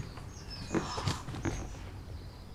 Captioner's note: gasps